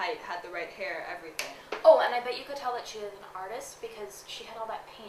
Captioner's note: snaps